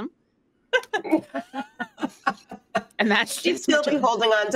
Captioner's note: laughs